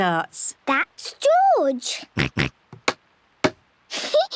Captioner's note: snorts; giggles